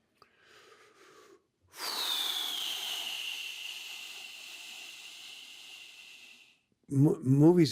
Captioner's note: exhales deeply